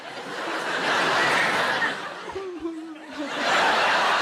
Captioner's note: audience laughs